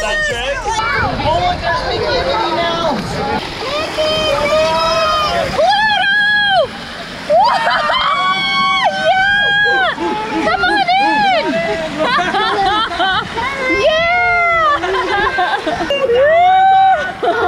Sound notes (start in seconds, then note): 7.2 shouts; 12.5 laughs